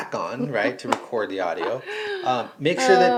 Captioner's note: laughing